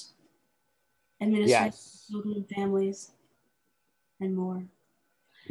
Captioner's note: static interference